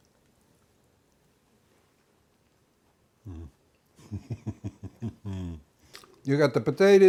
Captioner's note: chuckling